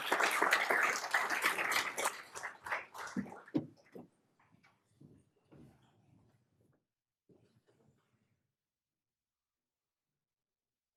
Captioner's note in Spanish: aplausos